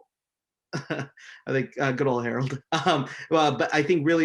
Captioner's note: laughs